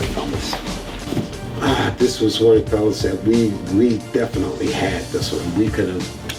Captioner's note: sigh